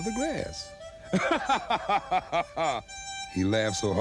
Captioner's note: laughs